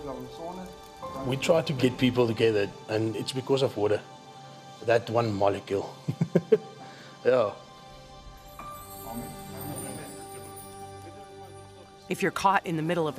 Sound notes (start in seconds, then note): 6.1 laughs